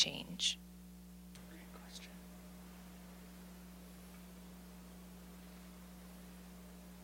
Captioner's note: indistinct chatter